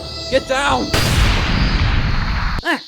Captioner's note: loud gunshot